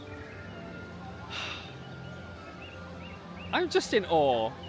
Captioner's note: sighs